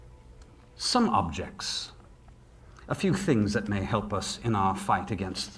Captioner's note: none